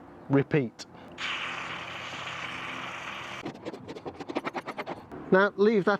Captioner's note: spraying